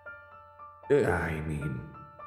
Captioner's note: game audio